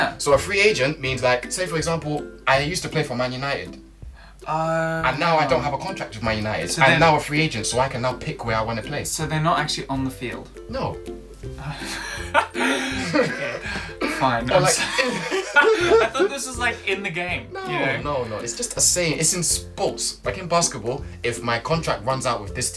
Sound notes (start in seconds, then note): 11.8 laughter